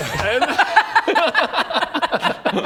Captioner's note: tormenting laughter